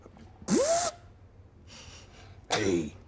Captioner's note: imitates whizzing